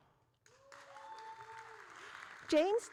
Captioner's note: audience cheering